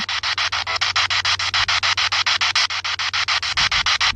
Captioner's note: spirit box sound